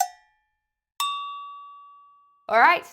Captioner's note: bell dings